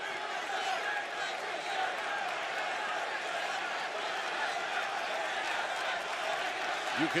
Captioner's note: cheers and applause